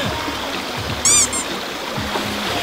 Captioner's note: squeak